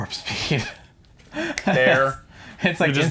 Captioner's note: snaps